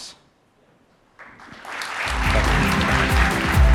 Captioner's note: applause